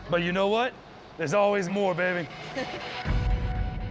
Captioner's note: woman laughs